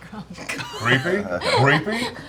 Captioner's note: laughter